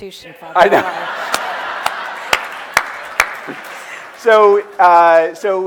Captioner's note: audience laughing